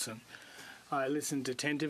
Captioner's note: speaking French